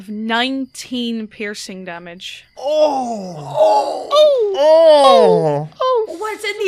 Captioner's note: groans from the whole party